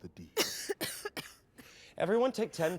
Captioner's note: coughing